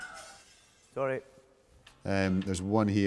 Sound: crash

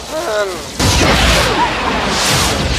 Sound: yelps

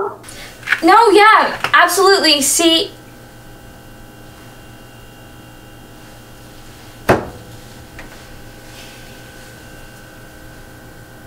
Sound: Tara hangs up

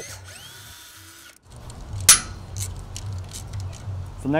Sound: drill buzzing

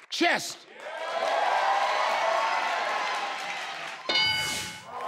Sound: crowd cheers; board dings

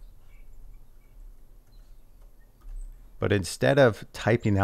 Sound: keyboard chattering

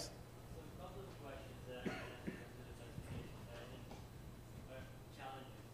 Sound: student speaking faintly

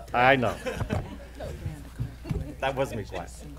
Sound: laughing

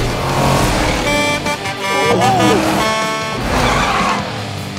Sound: Blaze honking

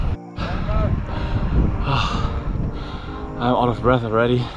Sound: panting

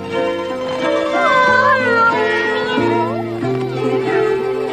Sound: Cat's daughters are purring

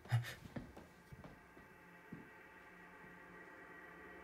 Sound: filmer exhales; ominous music

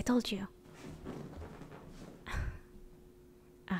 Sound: couch noises

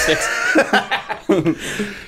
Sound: laughter

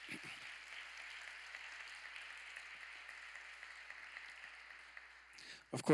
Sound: applause

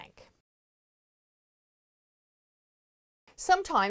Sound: no Sound Present

